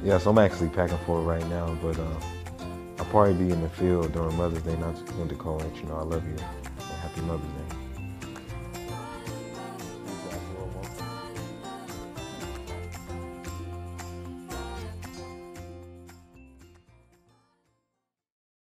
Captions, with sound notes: Yes, I'm actually packing for it right now, but I'll probably be in the field during Mother's Day and I just wanted to call and let you know I love you. Happy Mother's Day. (light, cheerful music) (chatting quietly)